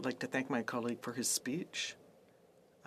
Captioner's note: speaking FRENCH